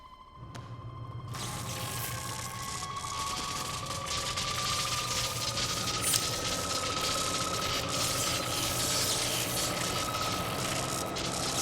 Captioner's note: electricity crackling